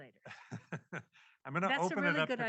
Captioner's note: laughs